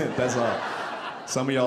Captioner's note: audience laughing